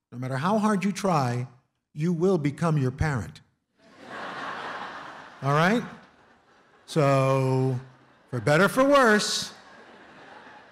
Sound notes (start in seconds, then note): 3.8 laughter